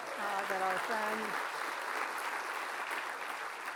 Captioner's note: applause